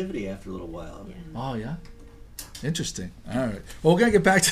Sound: voiceover; voiceover

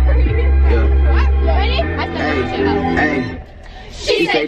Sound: girls chattering

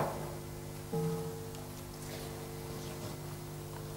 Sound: bell rings

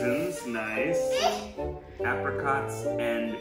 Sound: squeals

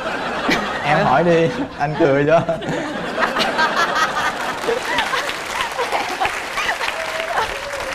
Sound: voice of laugh

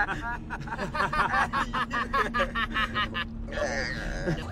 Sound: JEFF starts laughing; ABED starts laughing too but it doesn’t match JEFF and TROY’s laugh at all

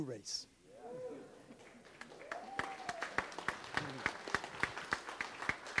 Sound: audience cheers and applauds

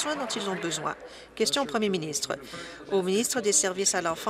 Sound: applause

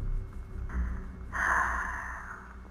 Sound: sigh

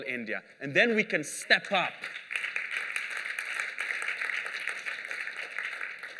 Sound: applause

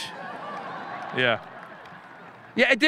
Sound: audience laughing

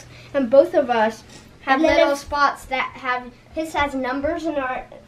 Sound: none

